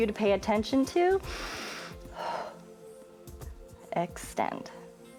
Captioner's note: inhales and exhales